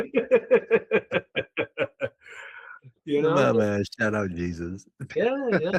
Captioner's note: both Laughing